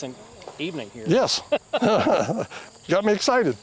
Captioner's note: both laughing